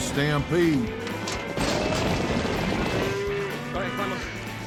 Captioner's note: cows stampeding